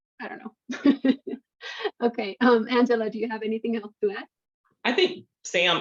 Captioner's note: chuckles